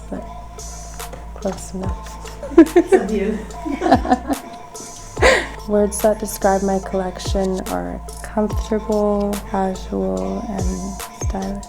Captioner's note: laughter